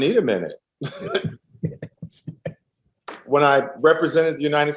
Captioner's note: laughter